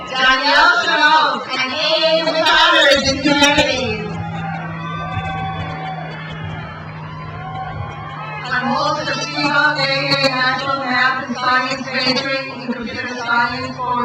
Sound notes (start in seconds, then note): 4.4 crowd cheers